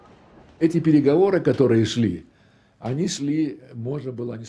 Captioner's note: speaking Russian